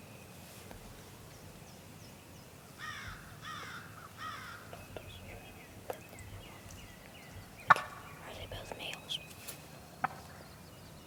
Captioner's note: whispering